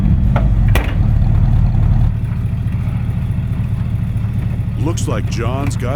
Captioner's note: engine roaring; door slamming